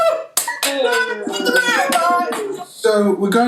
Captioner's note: 'Yay', Claps